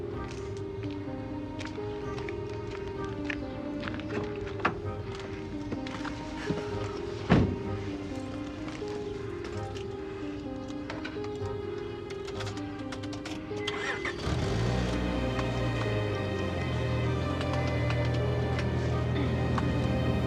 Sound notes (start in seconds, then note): 0.1 gentle upbeat music; 4.4 door closing; 6.4 birds chirping; 8.0 gentle upbeat music; 13.8 car engine revving; 16.9 gentle upbeat music